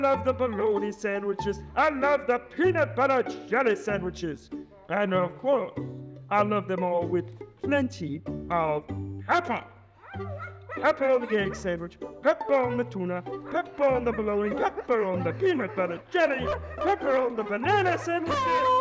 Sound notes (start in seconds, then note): 10.0 dog barks